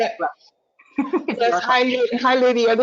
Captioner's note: laughing